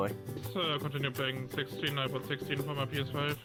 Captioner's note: chatter